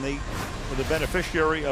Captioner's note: none